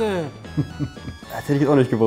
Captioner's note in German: Lachen